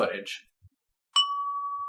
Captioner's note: ding!